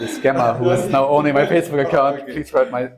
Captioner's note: laugh